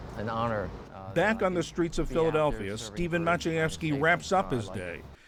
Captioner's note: voice-over